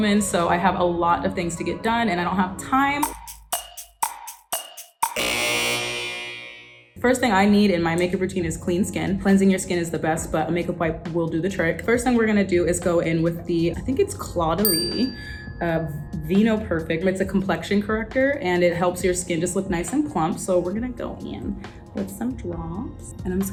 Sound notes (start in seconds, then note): 3.0 clock ticking; 5.1 buzzer sounding